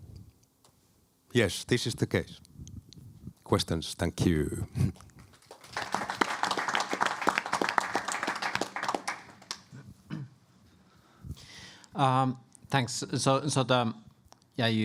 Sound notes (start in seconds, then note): 5.2 applause